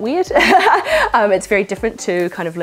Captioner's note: laugh